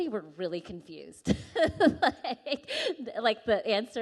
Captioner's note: laughing